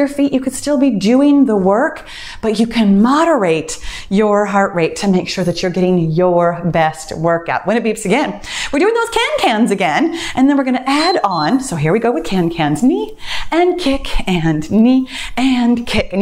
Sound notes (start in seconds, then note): 10.9 timer beeps